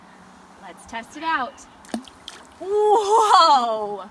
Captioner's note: water splashes